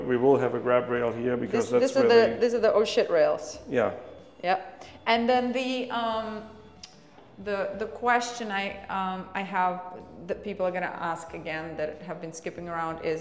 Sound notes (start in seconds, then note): 6.6 tuts